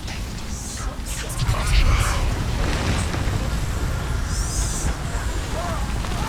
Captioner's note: frightening noise intensifies again